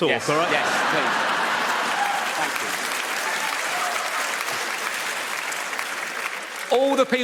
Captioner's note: audience laughs and applauds